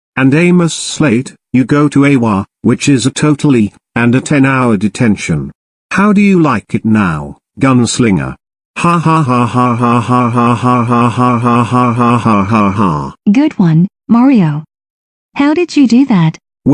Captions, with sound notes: - And Amos Slade, you go to Eiwa, which is a total E, and a 10-hour detention. How do you like it now, gun slinger? (Mario laughing) - Good one, Mario! How did you do that?